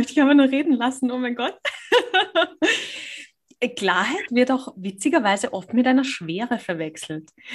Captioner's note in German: lacht